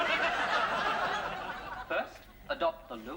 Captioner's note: laughter